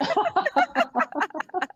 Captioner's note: laughs